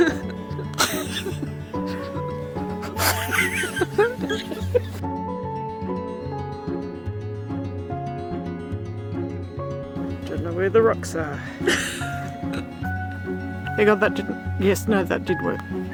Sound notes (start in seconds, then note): 0.0 laughter; 5.2 playful folk music; 11.6 laughter